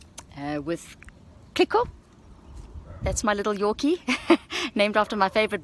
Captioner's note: laughs